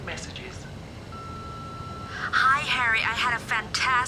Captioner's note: recorder beeping